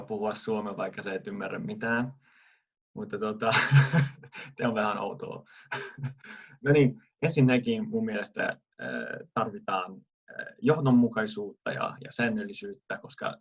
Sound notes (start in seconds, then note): 3.4 laughter